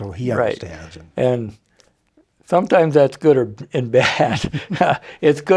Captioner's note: laughs